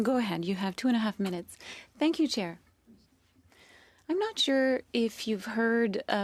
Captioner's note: speaking French